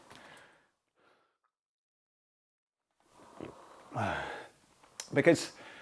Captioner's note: sighs